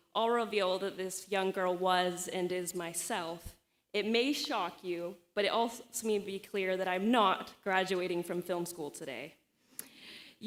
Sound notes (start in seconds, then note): none